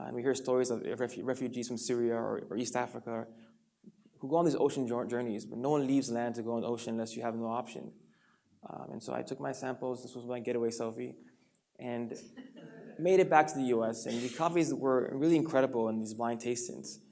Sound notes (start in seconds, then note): 12.4 audience laughs